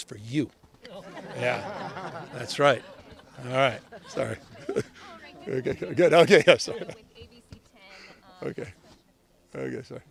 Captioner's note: laughter